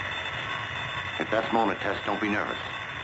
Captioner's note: phone ringing